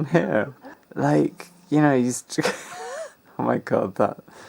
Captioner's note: laughs